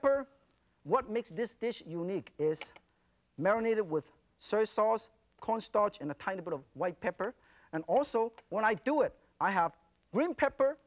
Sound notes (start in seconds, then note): none